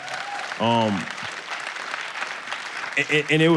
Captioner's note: audience applause